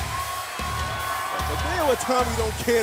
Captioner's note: cheers and applause